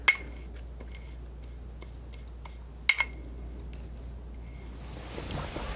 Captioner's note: scratching